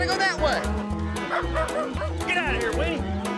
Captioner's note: dog barking